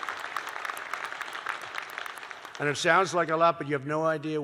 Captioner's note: applause